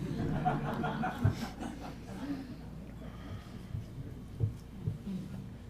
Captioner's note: laughter